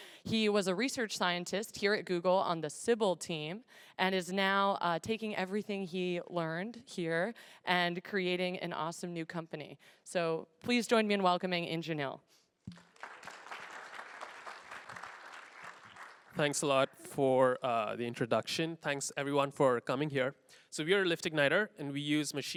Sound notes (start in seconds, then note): 12.7 applause